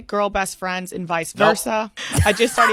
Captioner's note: laughs